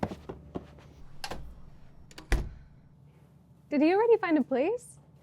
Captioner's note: door clicks